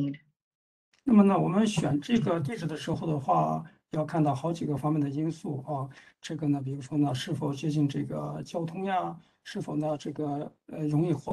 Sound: speaks in Mandarin

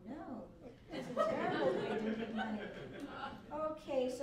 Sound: laughter

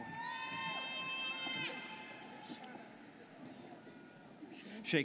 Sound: students cheering

